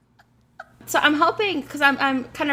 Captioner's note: laughs